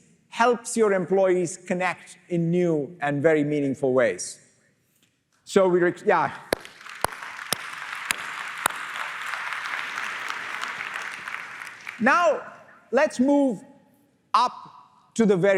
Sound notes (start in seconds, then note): 6.4 applause